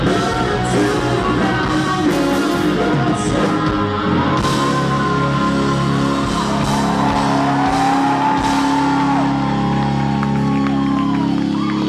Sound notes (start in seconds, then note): 10.2 cheering